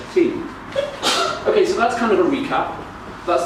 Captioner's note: audience member sneezes